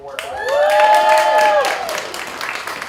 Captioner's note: applause